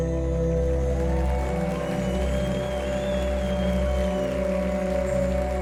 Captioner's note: audience applauding